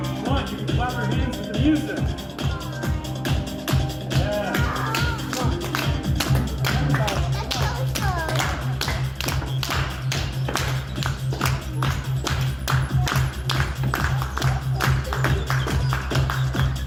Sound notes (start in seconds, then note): 2.5 audience begins clapping to the music; 6.3 audience clapping grows with music